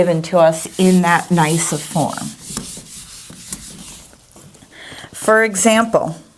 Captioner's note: eraser wiping board